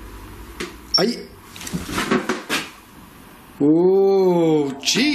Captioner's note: beeps